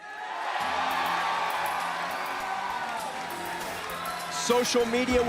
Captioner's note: crowd cheering